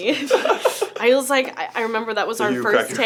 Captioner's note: laughs